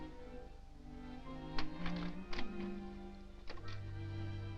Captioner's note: lock clicking